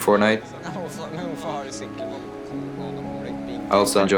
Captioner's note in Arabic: تحدث بالنرويجية